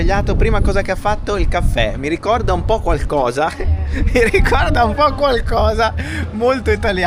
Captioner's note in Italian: risate